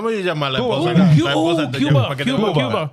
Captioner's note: speaking In Foreign Language